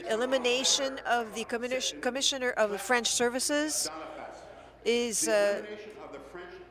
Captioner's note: speaking in French